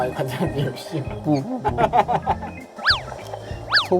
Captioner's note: laughter